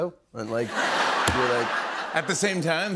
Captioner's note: laughter